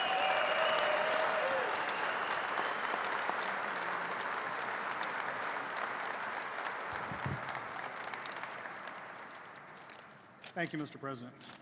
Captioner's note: applause